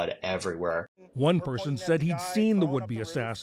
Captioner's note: voice-over